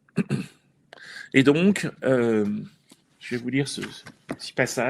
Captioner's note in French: raclement de gorge